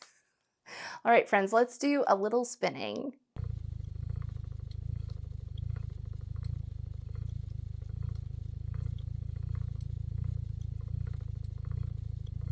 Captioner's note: spinning Wheel Sounds - Like a Purring Cat